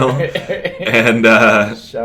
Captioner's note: laughs